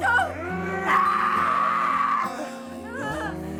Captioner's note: Tina shrieks